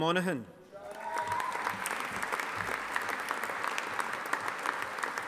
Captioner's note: audience applauding